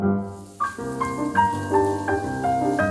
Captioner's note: hissing